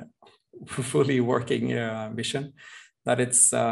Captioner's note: chuckles